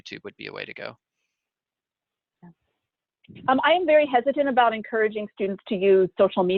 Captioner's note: pause